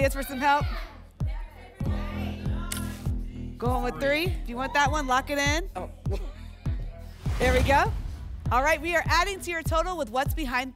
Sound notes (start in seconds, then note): 1.6 audience shouting numbers